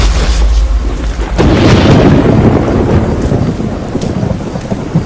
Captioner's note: thunder rumbling